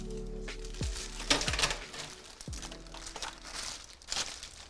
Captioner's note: rustling of bags